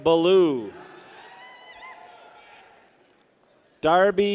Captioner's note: people cheer